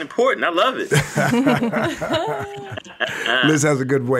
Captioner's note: hosts laugh